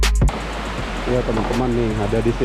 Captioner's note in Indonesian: suara air